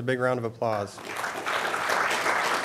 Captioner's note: applause